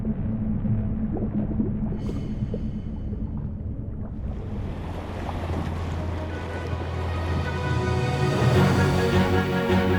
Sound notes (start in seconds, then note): 0.1 ominous music; 5.0 water sloshes; 7.3 upbeat music